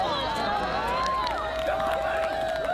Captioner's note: cheering